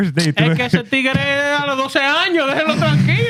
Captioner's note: speaking Foreign Language